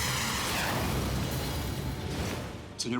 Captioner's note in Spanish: zumbido del proyectil; explosión